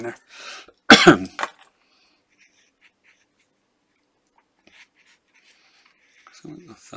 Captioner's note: coughing